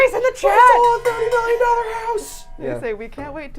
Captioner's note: water bottle clanging